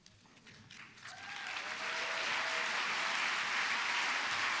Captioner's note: applause